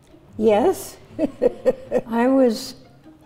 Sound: chuckles

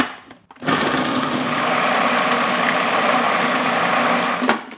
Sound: blender grinding

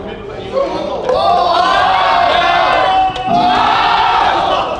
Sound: group cheering

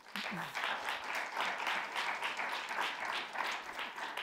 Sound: audience applauding

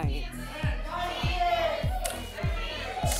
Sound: audience shouting numbers

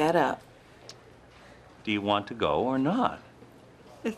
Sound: clicking of tongue

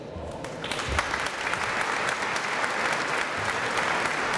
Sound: applause

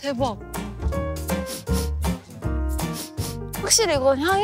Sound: sniff sniff

